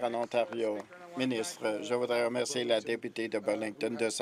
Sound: applause

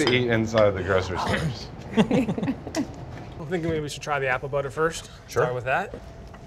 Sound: laughing

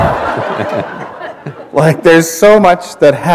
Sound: laughter

